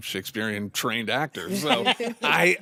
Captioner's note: all chuckle